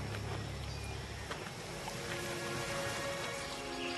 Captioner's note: gravel crunching